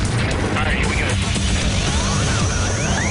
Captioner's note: alarm whoops